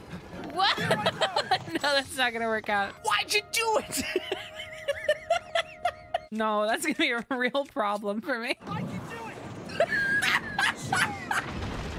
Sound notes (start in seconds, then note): 0.0 laughter; 3.9 laughter; 9.7 laughter